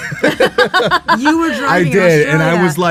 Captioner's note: all laugh